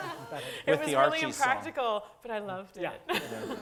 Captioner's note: laugh